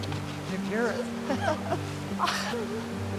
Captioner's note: laughs; Karen sighs